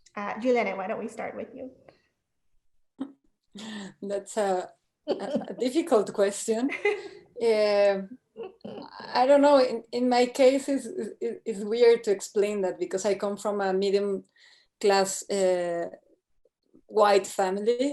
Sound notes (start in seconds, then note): 5.1 chuckles; 6.7 women laughing